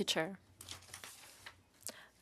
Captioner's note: speaking in French